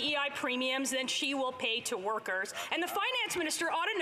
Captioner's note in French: voix de l'interprète